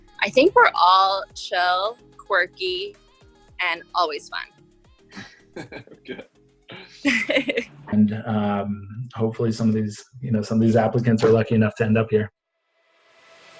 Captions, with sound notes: - I think we're all chill, quirky, and always fun. (laughing) - Good. - Hopefully some of these, you know, some of these applicants are lucky enough to end up here.